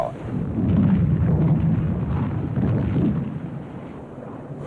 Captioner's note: aircraft engines, explosions